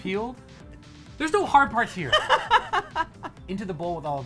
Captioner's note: laughing